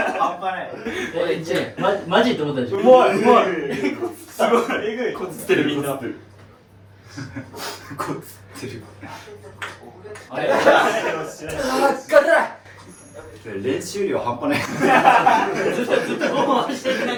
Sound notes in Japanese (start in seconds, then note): 0.0 笑い; 4.0 笑い; 7.7 咳払い; 14.6 笑い